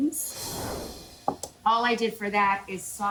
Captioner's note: air whooshes